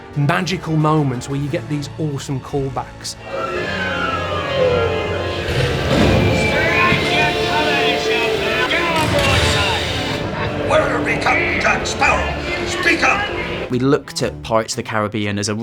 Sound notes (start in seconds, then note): 3.4 pirate-themed music playing; 6.7 yelling and explosions